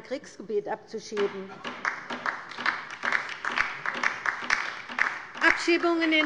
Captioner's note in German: Beifall bei der LINKEN